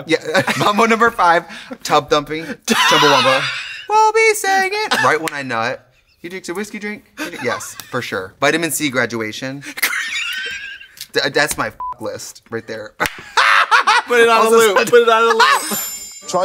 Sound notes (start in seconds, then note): 2.7 Katya laughs; 11.8 beep; 13.0 hand claps; 13.1 Trixie laughs